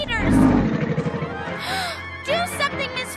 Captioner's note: gasps